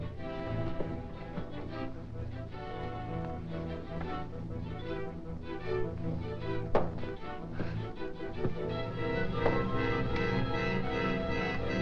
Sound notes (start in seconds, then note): 6.0 whip thudding